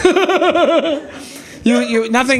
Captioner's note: audience laughing